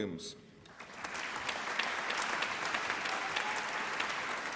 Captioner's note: applause